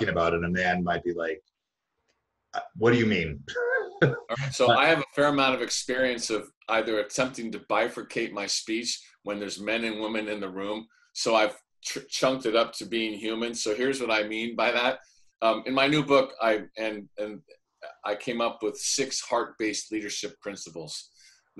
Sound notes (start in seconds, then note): 3.5 laughs